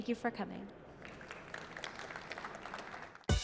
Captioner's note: applause